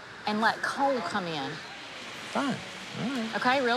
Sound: mutters

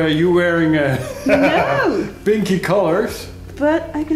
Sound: laughs

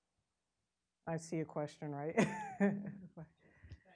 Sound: laughing

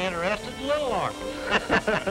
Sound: laughter

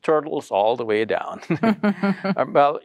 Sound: chuckling

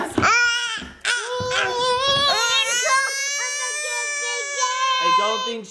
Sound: babbles

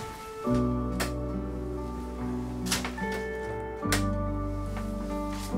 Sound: light switch clicking

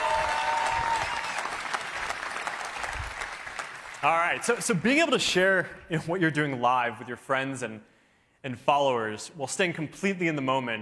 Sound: cheering

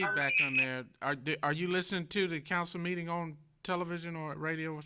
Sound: feedback

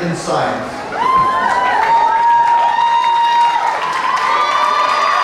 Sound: cheering and clapping

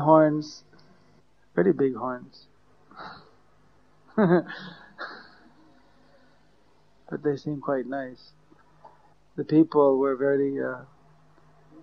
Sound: laughter

